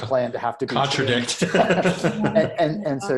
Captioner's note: laughs